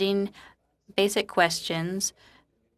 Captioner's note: speaking French